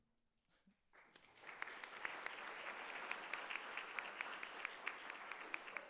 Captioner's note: audience applauding